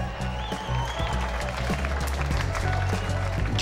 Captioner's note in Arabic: صفير وتصفيق